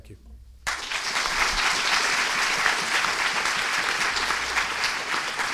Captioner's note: students applauding